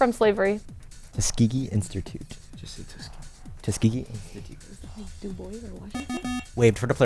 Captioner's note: wispering